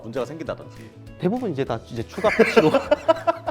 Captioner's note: laughing